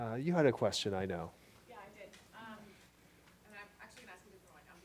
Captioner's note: voiceover